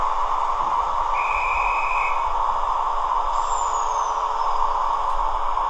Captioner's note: conductor's whistle